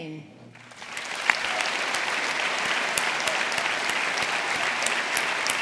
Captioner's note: audience applauding